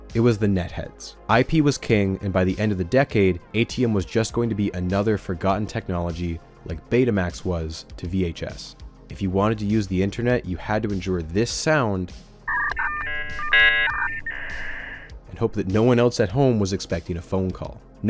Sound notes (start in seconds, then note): 12.4 DIAkUP NOISE; 12.4 cIAL UP NOISE; 12.4 dial dp noise; 12.4 dial up noise; 12.4 disl up noise; 12.4 dtal up noise